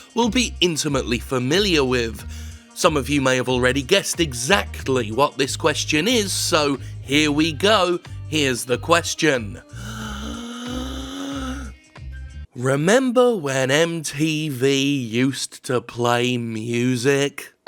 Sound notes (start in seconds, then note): 9.7 long inhale